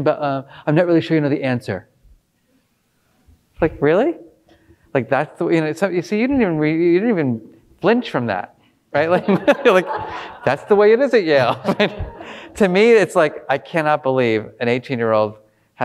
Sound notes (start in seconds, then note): 9.0 all laughing